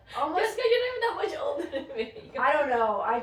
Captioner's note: laughter